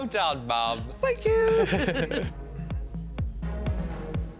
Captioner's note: laughter